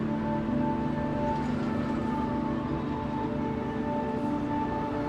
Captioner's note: traffic sounds